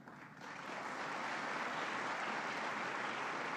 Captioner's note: applause